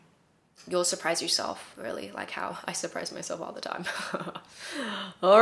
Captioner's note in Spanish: risas